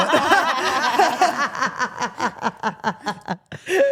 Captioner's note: group laughs